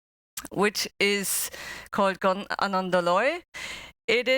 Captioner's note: non-english speech